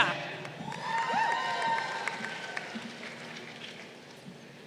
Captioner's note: crowd cheering